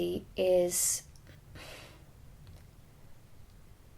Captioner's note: exhales